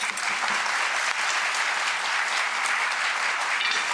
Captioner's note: applause